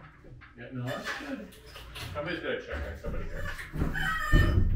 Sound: quiet conversation

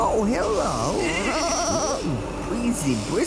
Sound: bleating

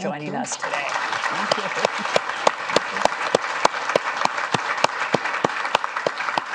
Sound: audience applauding

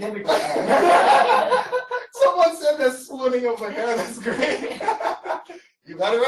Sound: laughter; laughter

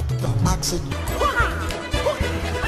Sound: squawks

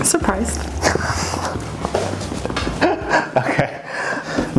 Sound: laughs

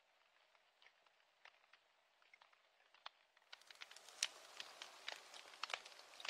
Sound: sounds of fire crackling

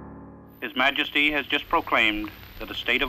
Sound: radio

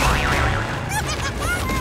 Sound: squawking

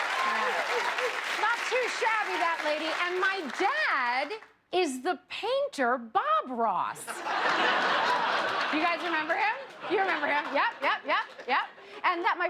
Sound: cheers and applause

